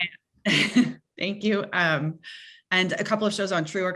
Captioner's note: chuckling